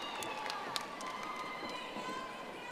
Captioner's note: audience applauding